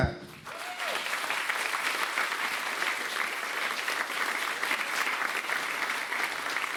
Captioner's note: crowd applauds